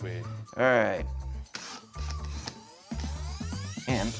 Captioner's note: drilling machine whirring